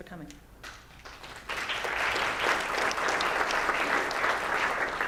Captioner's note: audience applauding